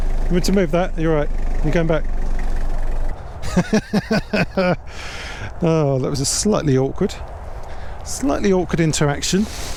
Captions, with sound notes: You want to move that? You all right? You going back? [LAUGHS] Oh, that was a slightly awkward. Slightly awkward interaction.